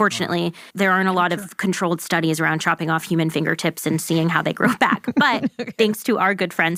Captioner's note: laughs